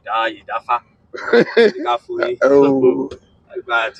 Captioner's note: laughing